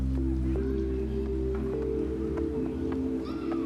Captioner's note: birds chirp